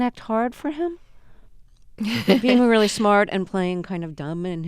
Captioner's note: soundbite of laughter